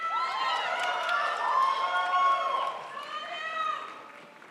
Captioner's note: crowd applauds